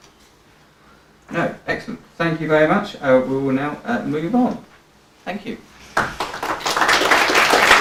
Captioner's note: applause